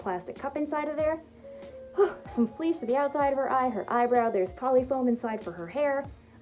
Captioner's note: sigh